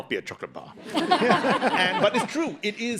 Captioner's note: audience laughs